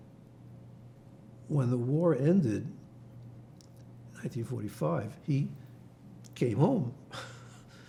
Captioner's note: laughing